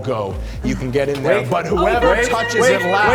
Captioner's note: yelling